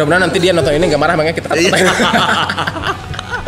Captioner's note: laugh